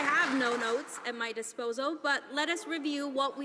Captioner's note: some Applause